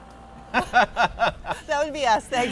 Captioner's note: laughing